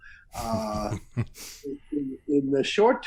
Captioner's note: laughs